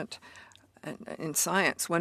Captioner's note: speaking in French